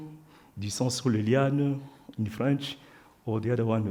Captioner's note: speaks French